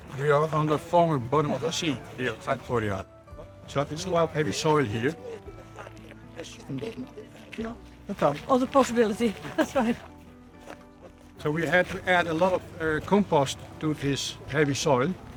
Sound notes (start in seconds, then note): 5.6 footsteps on gravel